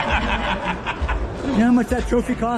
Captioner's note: laughing